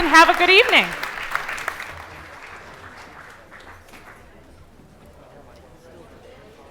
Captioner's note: applause